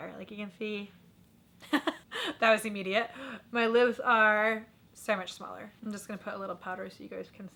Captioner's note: laughter